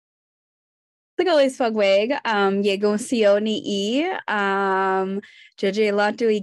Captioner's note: speaking in Native language